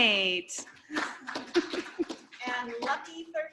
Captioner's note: applause